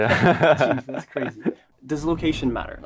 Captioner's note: both laugh